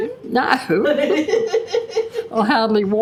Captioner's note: laughter